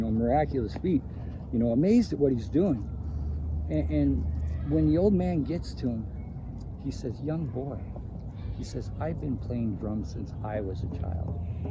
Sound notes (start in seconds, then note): none